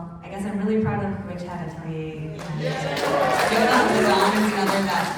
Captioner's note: applause